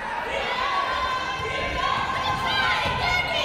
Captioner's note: yelling